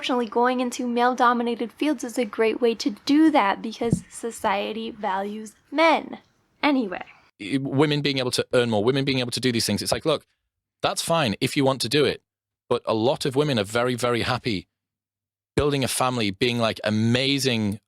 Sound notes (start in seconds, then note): 7.4 podcast plays